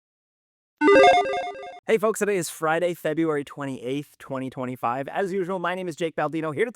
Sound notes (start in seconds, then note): 0.8 logo chiming